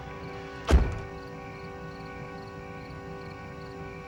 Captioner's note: door latch clicks